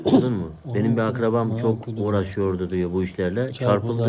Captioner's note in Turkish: boğazını temizler